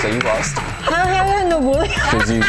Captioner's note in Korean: 웃음